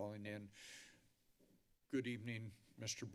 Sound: inhales deeply

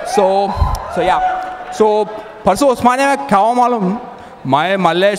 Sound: Hyderabadi dialect

